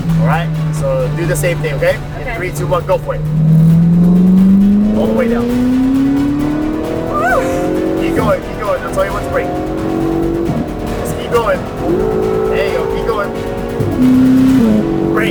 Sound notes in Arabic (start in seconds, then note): 3.8 صوت محرك السيارة; 6.1 هدير محرك السيارة; 10.2 صوت محرك السيارة; 12.0 هدير محرك السيارة